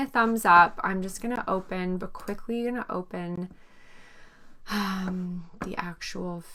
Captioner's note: exhales